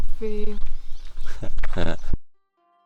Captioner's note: laughter